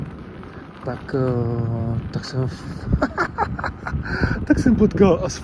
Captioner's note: laugh